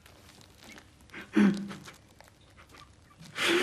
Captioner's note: sobs